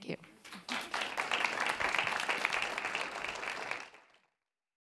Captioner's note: audience clapping